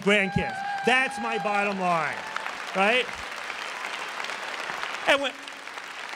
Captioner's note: applause